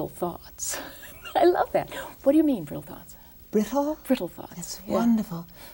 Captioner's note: laughs